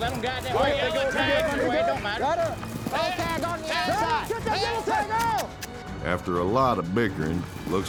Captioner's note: cowboys clamoring